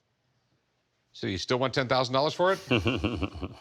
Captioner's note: chuckles